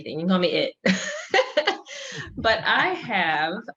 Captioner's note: chuckles